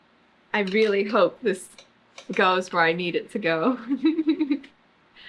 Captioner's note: laughs